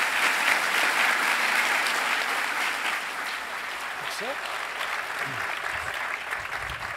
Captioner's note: applause